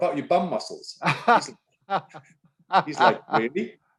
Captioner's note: laughing